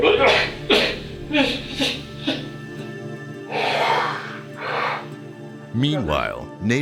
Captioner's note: suspenseful upbeat music; crying